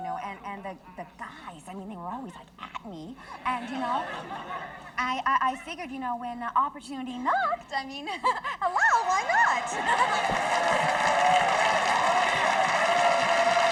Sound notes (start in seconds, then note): 8.1 laughs; 10.5 audience applauding